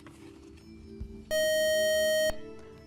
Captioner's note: buzzer